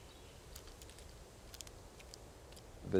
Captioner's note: crunching